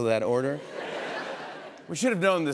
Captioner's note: laughter